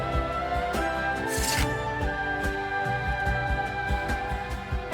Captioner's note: flesh squishing